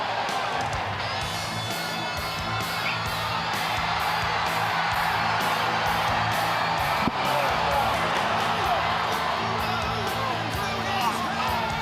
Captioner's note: crowd cheering